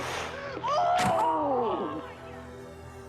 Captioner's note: spectator gasping; screaming